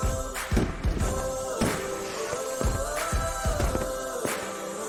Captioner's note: fireworks exploding